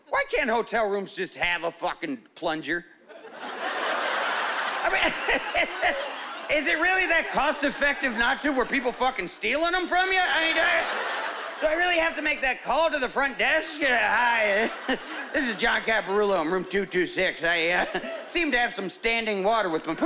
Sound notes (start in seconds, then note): 5.8 laughing; 13.1 chuckling